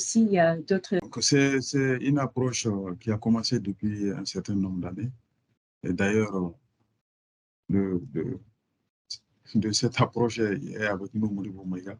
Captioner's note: question is answered in French